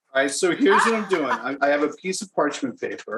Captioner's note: Rachael laughs